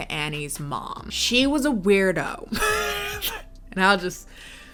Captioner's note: laughs